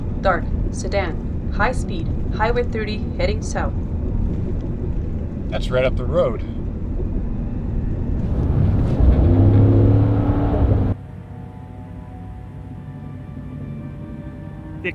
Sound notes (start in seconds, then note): 8.2 truck engine revving; 11.4 suspenseful music